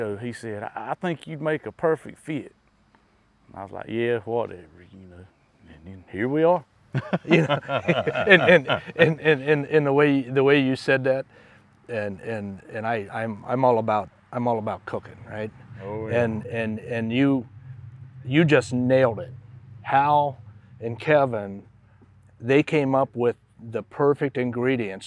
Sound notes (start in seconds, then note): 6.9 laughs